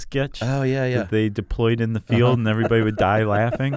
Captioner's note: laughs